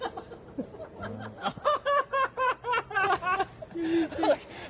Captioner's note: laughs